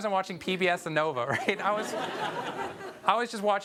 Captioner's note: audience laughs